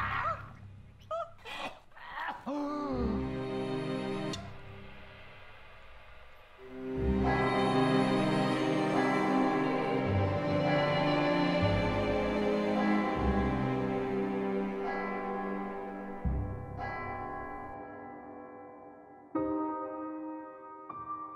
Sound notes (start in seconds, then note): 1.1 Stacey whimpers; 2.4 George gasps; 7.6 church bells ringing